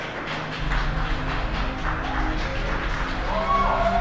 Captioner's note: cheers and applause